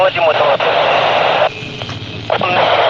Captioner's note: radio clatter